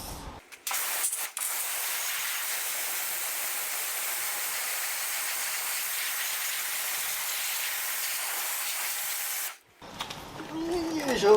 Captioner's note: shower sounds